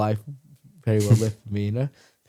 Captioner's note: laughs